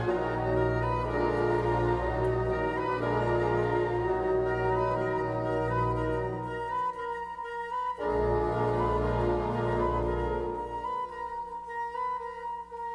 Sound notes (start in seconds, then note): none